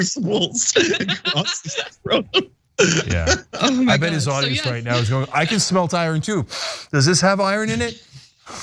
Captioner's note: laugh